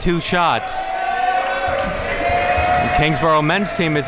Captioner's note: crowd cheering